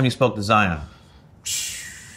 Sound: RJ exhales

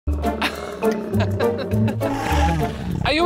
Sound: laughs; t-rex growls

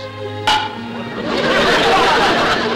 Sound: crack; audience laughter

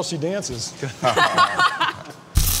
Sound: laughter

